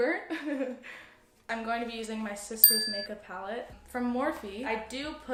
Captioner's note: ding